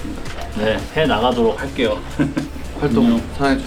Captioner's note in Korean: 허허